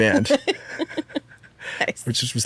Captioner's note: laughs